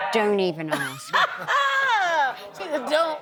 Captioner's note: laughter